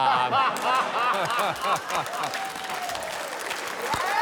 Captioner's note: laughter, cheering